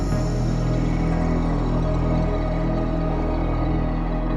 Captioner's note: motor purring